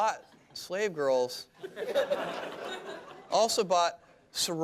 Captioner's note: laughter